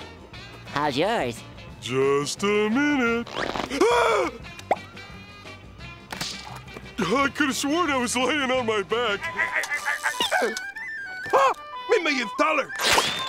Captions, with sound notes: How's yours? Just a minute. [screams] I could've sworn I was lying on my back. [laughs] [gasps] Ah! Me millionth dollar!